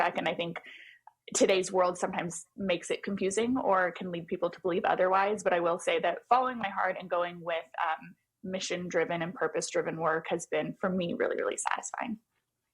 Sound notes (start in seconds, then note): none